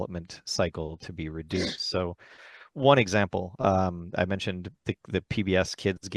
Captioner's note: clears throat